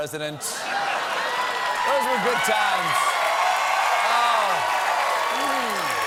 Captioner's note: cheers and applause